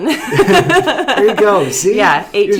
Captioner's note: laughing